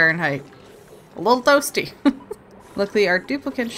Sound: laughs

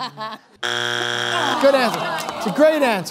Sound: buzzer sounds

